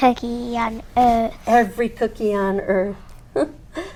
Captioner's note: laughs